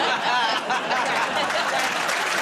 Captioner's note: laughter